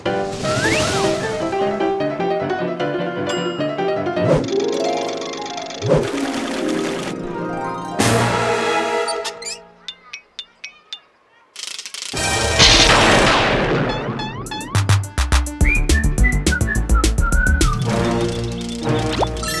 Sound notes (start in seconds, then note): 0.1 playful music playing; 4.6 harp music playing playing; 8.2 dramatic music playing; 12.2 dramatic music playing; 12.4 thunderclap; 15.7 playful music playing; 17.8 ominous music playing